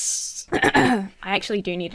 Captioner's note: Emma clears throat